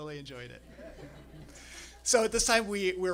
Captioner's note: laughter